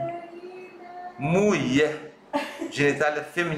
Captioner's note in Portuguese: risos